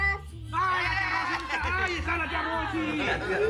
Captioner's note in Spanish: Exclamaciones